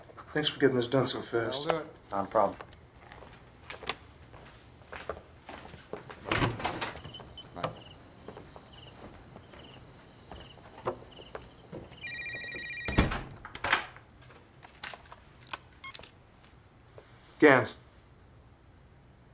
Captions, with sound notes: THANKS FOR GETTING THIS DONE SO FAST. ALL DONE. NOT A PROBLEM. BYE NOW. [ Opening of door ] BYE. [ Ringing of cell phone ] GANS.